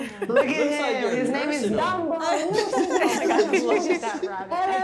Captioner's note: laughing